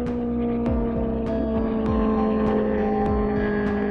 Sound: car engine roars

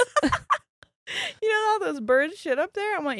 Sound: both laughing

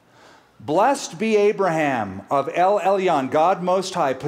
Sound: speaking hebrew

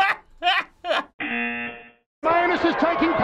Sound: buzzer

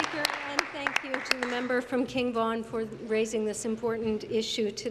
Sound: applause

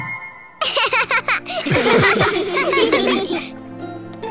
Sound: laughing

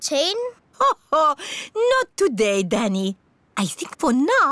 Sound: laughs

